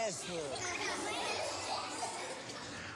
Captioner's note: laughter